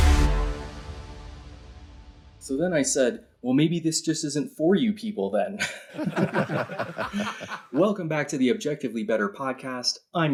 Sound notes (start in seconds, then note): 0.0 dubstep; 5.6 laugh track